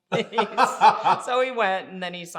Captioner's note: both laughing